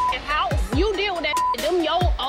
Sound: beep

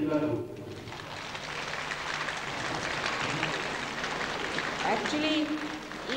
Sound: applause

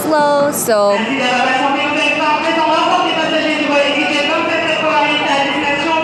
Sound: gets interrupted by avid French speaking lady on intercom LOL

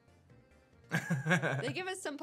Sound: chuckles

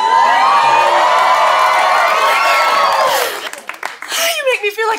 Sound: audience cheers

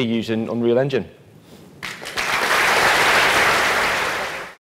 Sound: applause

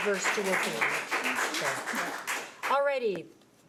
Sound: audience clapping

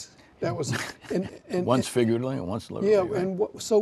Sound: laughter

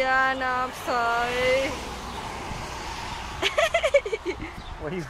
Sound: laughing

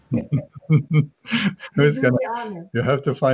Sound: laughter

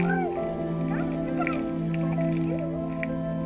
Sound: kids chatting and laughing

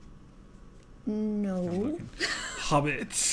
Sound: laugh

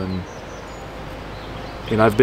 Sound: birds chirping

